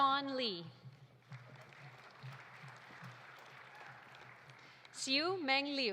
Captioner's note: audience applauding